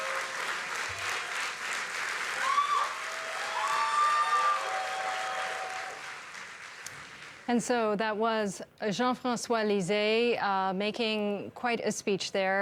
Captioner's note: cheers and applause